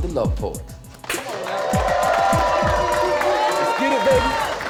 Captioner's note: cheers and applause